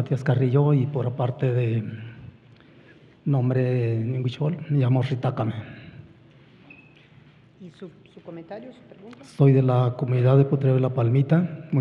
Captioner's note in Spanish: habla en wixárika